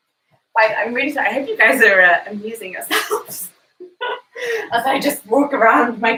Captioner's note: laughs